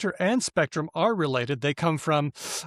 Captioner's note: none